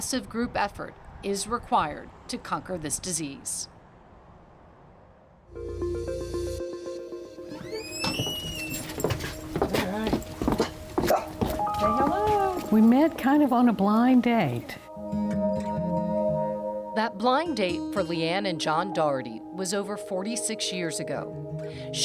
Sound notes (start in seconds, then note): 5.5 slow electronic music; 7.5 door creaks; 10.9 slow piano music; 11.0 dog barks